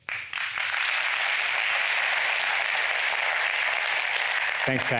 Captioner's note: applause